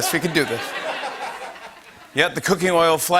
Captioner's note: laughter